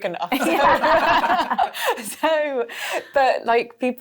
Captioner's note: laughing